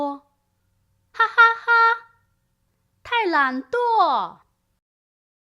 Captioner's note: laughter